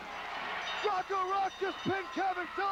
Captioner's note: crowd cheering; bell ringing